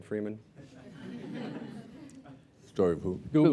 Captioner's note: laughter